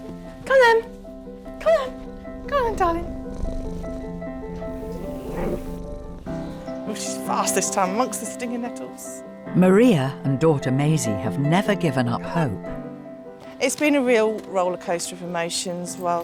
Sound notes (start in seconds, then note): 3.6 cat purring